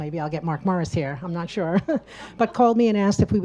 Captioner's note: laughs